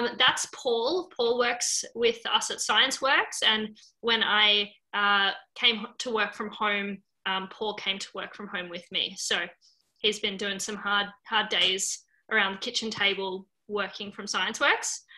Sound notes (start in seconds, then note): none